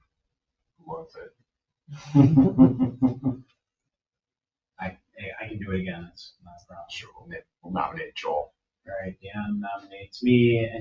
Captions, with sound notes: Who wants it? (people chuckle) I can do it again. It's not a problem. Joel, I'll nominate Joel. All right. Dan nominates me.